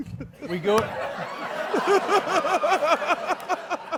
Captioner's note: laughter